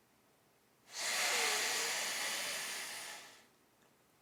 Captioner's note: man inhaling